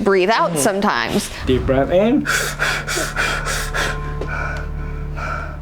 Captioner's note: breathing heavily